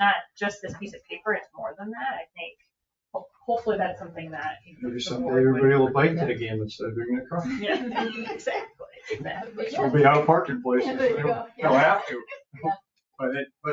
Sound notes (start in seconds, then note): 8.2 all laughing